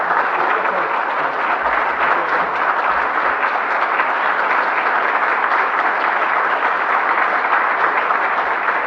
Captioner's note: applause